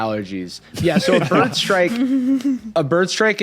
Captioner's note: others laughing